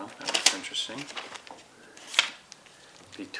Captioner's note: plastic rustling